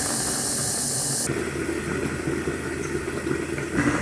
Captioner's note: bubbling